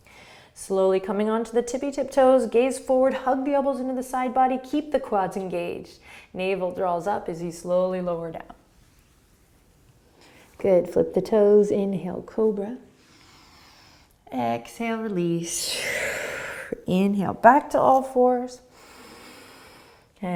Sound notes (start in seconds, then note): 0.0 exhaling; 13.0 inhaling; 15.6 exhaling; 18.7 inhaling